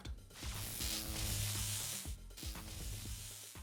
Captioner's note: electric Buzz